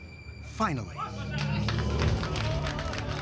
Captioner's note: cheers and applause